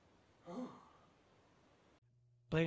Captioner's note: phew